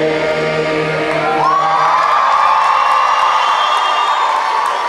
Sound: cheering and clapping

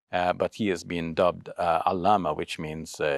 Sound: speaks Arabic

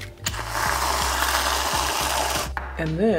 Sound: cream spraying

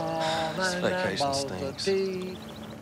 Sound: sighing

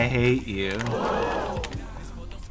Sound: crowd gasping

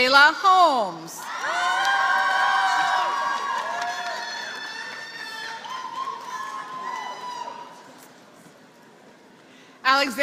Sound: applause

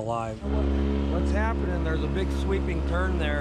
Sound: boat engine running

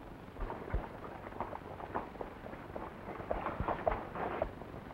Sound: wagon rattling

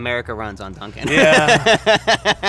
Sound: laughing

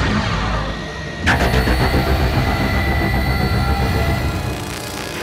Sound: sound waves

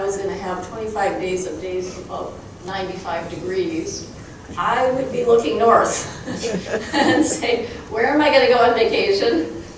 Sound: crowd chuckling

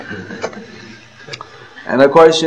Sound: laughter

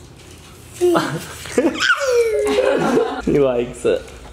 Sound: laughter

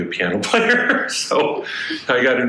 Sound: laughs

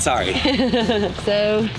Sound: laughing

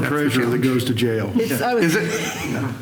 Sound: laughter

